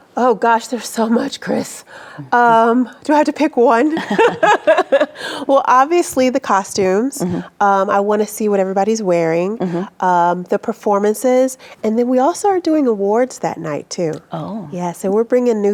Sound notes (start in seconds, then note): 3.9 both laughing